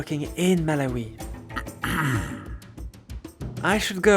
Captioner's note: ahem